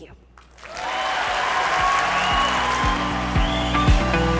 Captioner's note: audience cheering; inspiring music